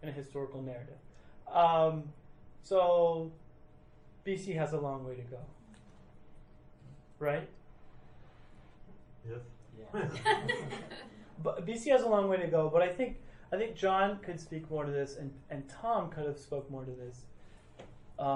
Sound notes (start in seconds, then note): 10.0 laughing; 10.0 crowd